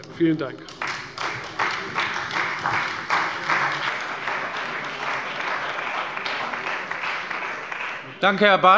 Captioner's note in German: Beifall bei der CDU und dem BÜNDNIS 90/DIE GRÜNEN